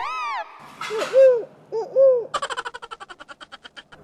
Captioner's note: making the sound of the owl